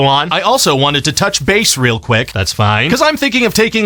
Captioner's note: none